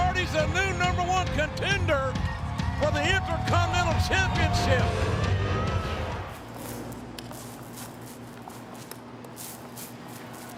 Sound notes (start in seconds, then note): 6.3 paint squelching